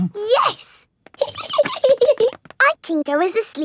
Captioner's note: giggling